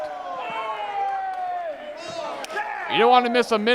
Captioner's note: shouting